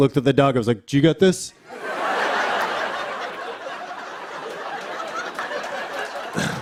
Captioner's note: laughter